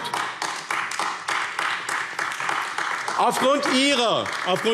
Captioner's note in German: Beifall AfD